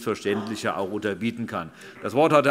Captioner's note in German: Beifall - Zuruf: Muss man aber nicht!